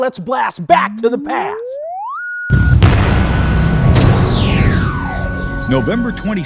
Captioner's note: sound Effects